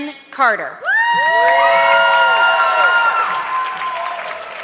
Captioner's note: audience clapping